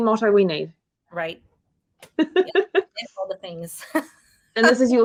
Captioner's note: woman laughing